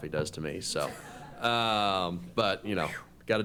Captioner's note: laughter